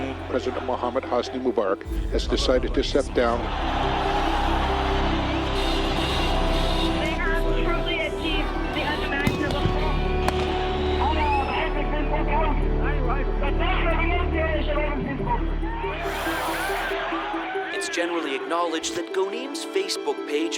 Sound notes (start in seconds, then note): 3.1 cheering